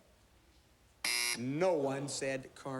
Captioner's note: buzzer